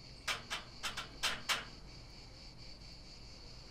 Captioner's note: knocking